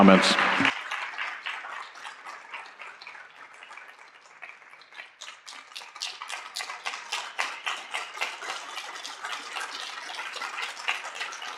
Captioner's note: applause